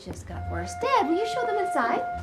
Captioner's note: quietly